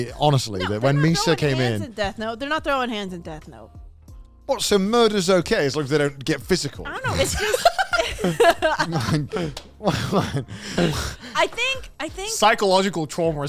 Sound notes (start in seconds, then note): 10.7 men laugh